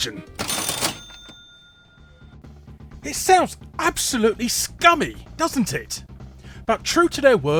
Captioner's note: cash register